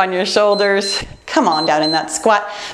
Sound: timer beeps

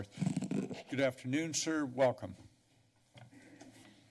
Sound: mic noise

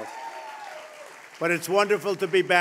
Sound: applause

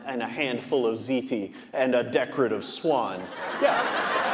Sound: audience laughing

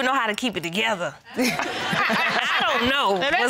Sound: all laughing

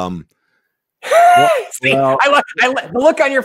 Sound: laughing

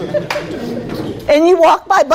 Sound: laughing

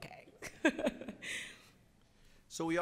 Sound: laughing

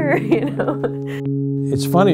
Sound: chuckling

